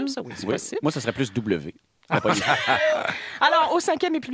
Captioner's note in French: rires